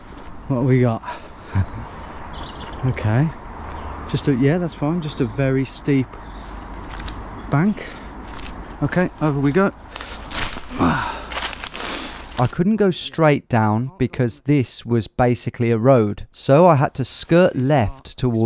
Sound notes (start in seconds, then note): 10.6 grunts